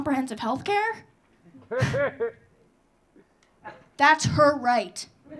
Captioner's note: audience laughing